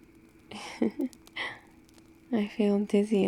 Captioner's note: laughs